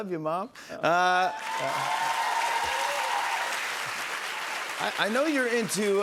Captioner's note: cheers and applause